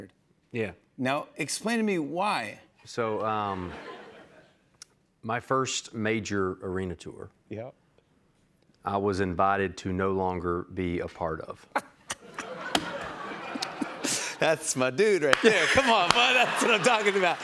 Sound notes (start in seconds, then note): 11.7 laughter